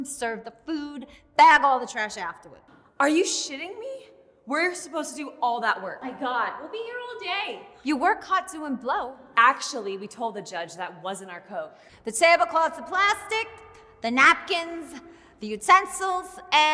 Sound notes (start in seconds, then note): none